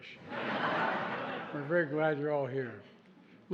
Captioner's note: laughter